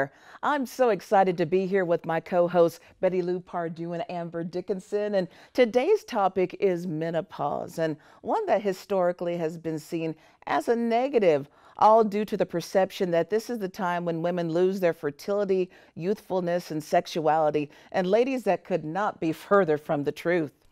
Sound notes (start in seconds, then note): none